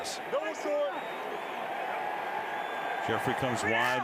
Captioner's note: onfield chatter